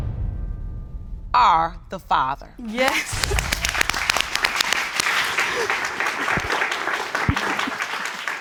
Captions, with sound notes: ...are the father. Yes. (LAUGHS) (AUDIENCE APPLAUDING)